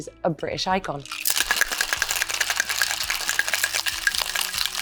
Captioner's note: container shakes